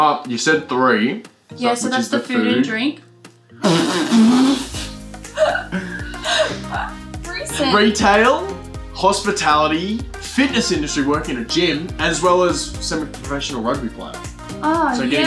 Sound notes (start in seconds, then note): 2.1 laughter